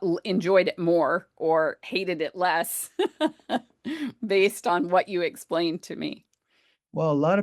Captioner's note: laughs